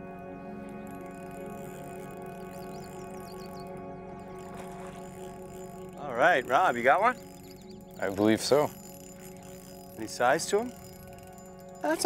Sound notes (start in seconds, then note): 0.5 line reeling